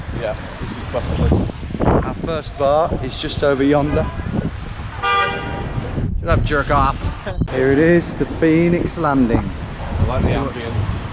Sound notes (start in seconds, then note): 4.9 car horn honks; 7.0 laughs